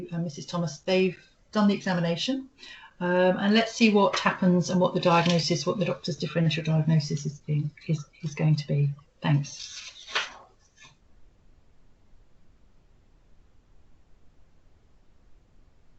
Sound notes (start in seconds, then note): 14.0 silence